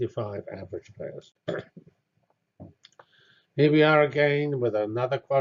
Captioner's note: cough